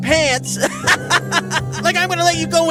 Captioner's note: laughing